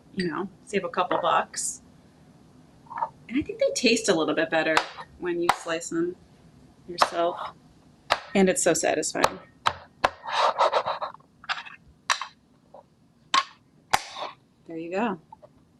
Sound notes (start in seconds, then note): 8.1 slicer chopping